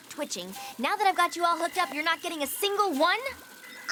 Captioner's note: none